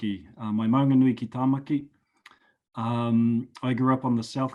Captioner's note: speaking foreign language